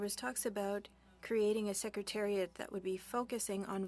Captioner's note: speaking French